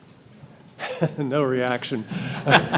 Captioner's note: chuckling; all laughing